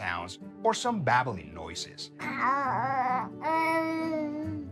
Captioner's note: baby babbling